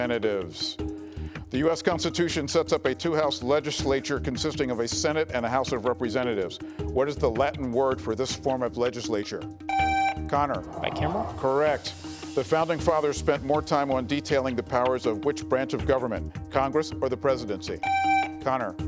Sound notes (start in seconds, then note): 9.6 buzzer buzzing